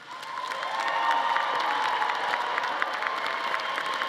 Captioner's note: audience applauding